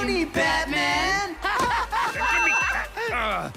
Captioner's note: wild laughter